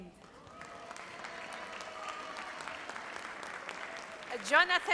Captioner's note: audience applauds